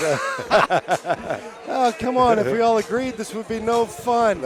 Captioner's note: laughter